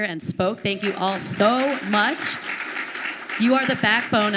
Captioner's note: audience applauding